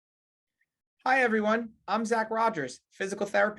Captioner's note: hablando inglés